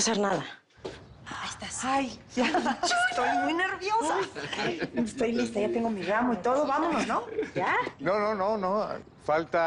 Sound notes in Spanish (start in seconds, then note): 4.1 Risas